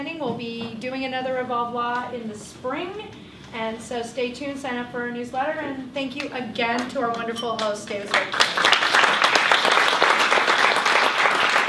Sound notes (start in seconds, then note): 8.0 applause